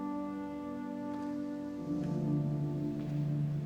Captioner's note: footsteps